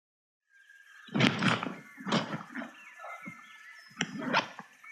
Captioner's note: bag rustling